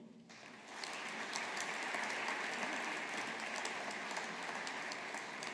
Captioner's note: audience applauding